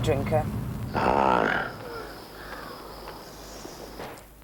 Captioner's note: growls